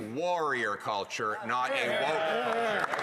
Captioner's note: applause